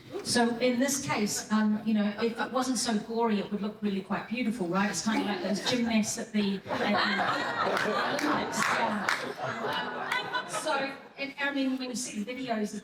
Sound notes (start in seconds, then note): 6.6 everyone is laughing